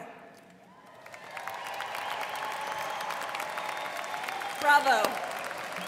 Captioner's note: students cheering and applauding